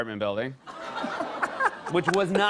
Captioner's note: laughter